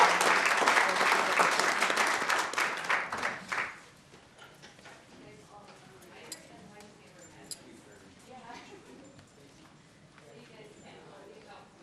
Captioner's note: applause